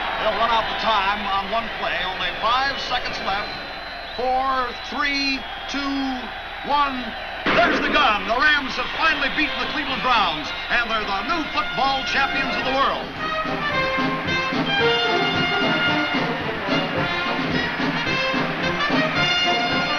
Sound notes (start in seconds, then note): 7.4 gunshot; 13.7 festive band music